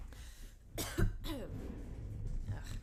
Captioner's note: cough